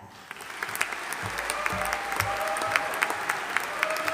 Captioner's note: audience applauding